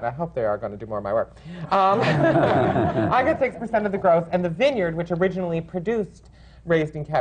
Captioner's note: laughter